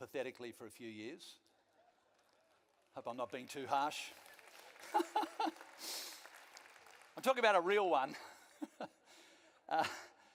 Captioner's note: laughs and some of the audience applauses